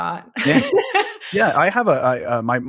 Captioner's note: laughing